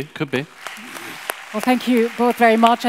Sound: audience applauds

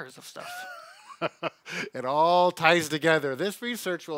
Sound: laughs

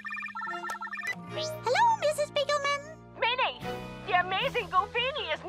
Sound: phone rings

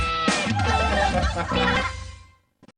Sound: audience laughs

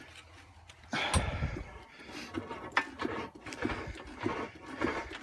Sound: heavy breathing

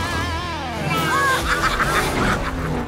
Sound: baaing

